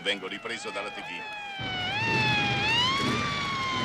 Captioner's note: sirens